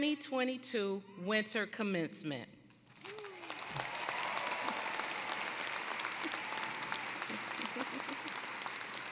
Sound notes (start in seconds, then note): 2.9 applause